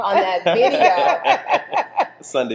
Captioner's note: both laughing